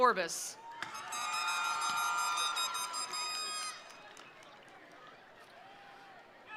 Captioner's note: attendees cheering; attendees applauding